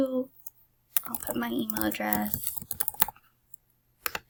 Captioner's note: typing